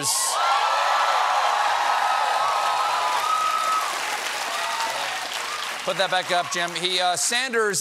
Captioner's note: cheers and applause